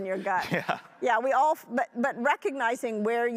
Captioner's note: laughs